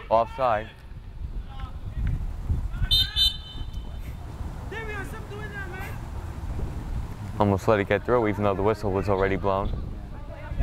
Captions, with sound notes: Offside. (whistle blows) (players talking and yelling) Almost let it get through, even though the whistle was already blown.